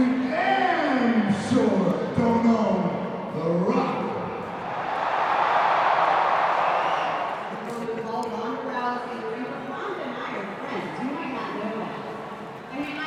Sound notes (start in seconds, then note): 4.4 crowd cheering